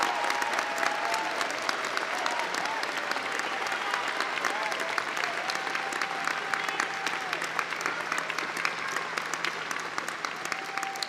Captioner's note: applause